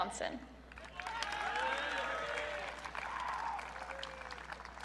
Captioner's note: audience cheering